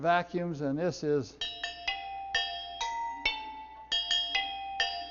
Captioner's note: pipes ding